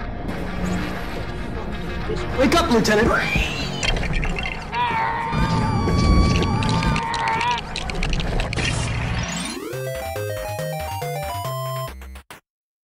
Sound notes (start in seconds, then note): 4.6 screams in reverse; 4.6 screams in reverse yoda; 4.9 screams in yoda; 5.6 screams in chi chi